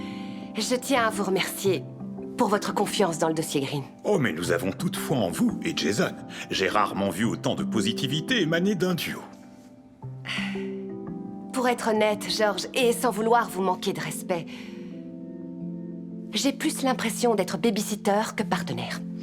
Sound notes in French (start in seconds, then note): 10.2 soupirs